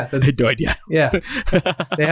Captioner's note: laughs